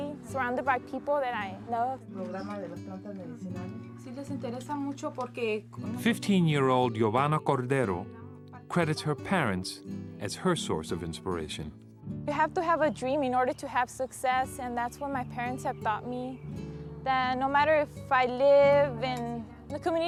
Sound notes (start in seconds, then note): 2.1 speaking in foreign language